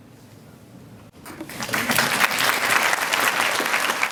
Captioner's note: applause